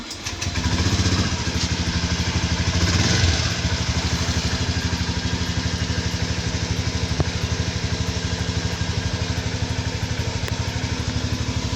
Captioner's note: motorcycle engine